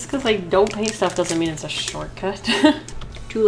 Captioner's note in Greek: Γέλια